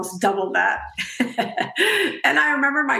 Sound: laughing

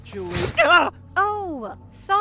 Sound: pained yelp

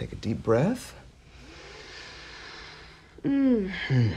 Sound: inhaling deeply

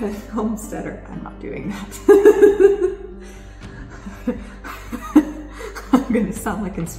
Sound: laughs

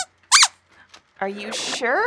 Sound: squeaks squeaking

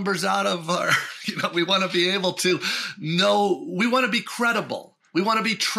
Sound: chuckles

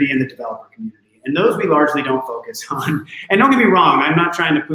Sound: chuckling

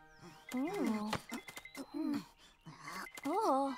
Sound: grunting

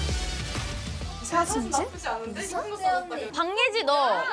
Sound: murmuring at the news of a promotion

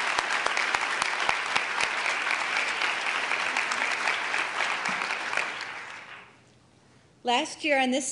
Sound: applause

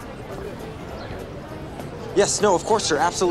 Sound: chatter

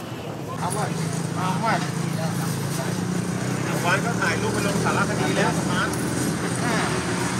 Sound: SpeakingThai

